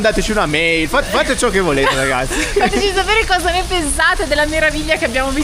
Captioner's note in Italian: risate